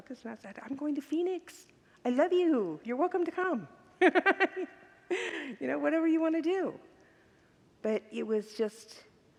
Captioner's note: laughs